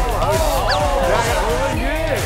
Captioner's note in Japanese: ただ感嘆; パシャパシャ